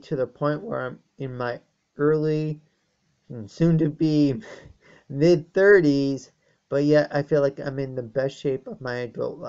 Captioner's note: chuckles